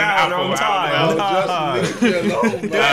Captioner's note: laughing